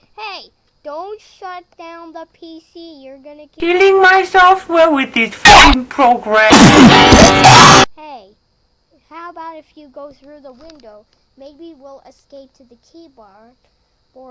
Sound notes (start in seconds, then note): 6.5 spat